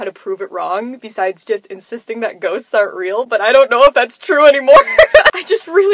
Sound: nervous laughter

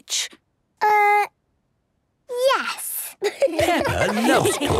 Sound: laughter

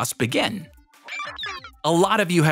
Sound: digital sounds

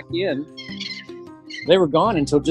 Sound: bird calling

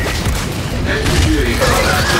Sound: gunshots

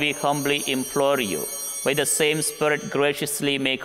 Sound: bell ringing

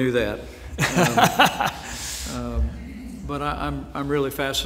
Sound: laughs

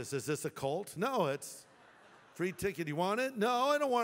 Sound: laughter

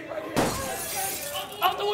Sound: glass shatters

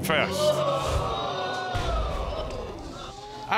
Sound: audience gasps

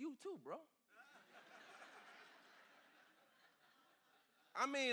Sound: congregation laughs

